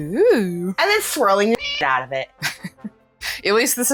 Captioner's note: meow